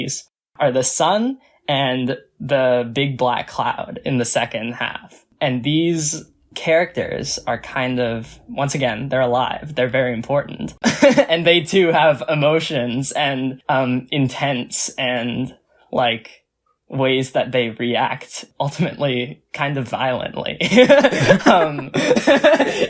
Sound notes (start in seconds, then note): 11.3 laughs; 20.6 both laugh